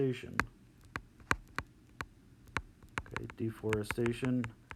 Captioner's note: tapping sound